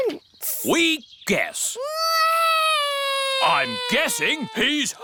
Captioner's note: alexander wails